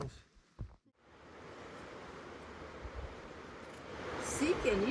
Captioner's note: rushing water